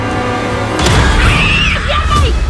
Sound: scream

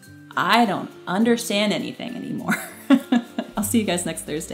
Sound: laughs

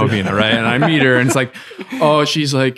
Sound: friars chuckling

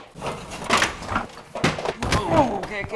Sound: thuds

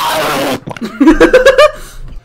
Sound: laughter

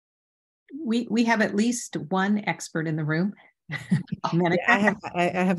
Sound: chuckles

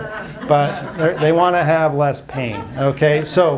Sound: laughs

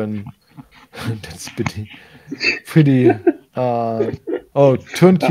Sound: laughs

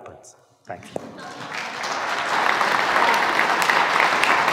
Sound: applauding

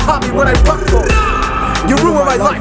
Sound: grrrrrrrrrrAH

